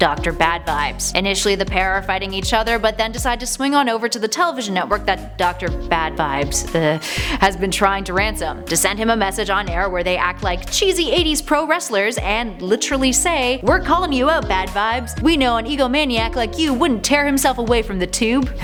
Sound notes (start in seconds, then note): 6.7 ugh